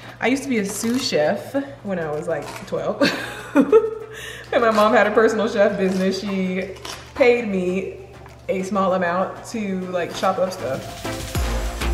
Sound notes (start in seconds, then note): 2.8 laughing